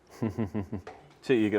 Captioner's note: chuckling